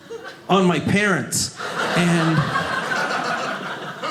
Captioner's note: audience laughing